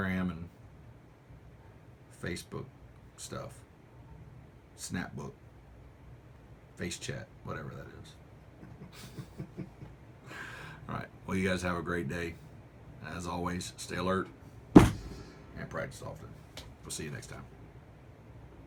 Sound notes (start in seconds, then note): 8.4 laughter; 14.7 pounds fist